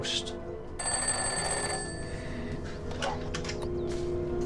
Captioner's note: phone ringing